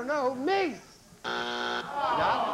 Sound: buzzer

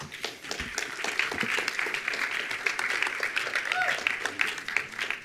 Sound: attendees applauding

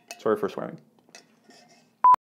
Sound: beep

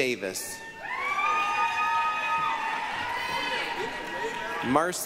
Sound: applause, cheering

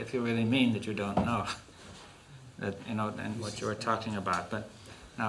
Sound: laughs

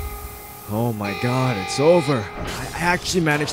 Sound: crackle fades; alarm blares; door opens

